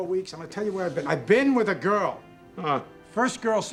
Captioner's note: scoffs